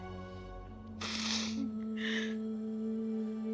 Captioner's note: Rabiyah sniffs